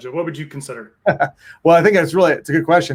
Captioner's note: chuckles